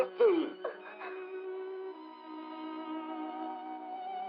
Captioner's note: crying